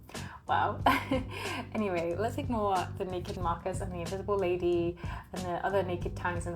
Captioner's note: laughs